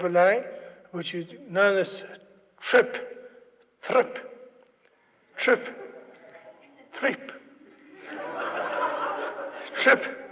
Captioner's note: laughter